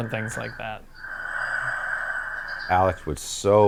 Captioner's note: breathing heavily